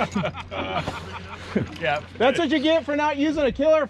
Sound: laughing

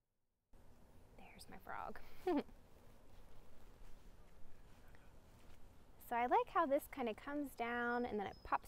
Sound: laughs

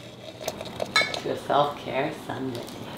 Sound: liquid pouring; glasses clinking

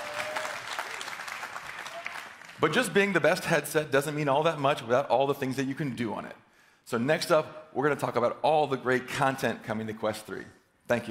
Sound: cheering

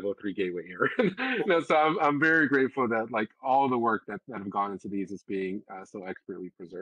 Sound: laugh

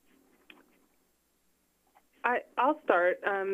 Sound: rustling

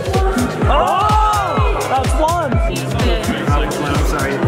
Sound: group cheers

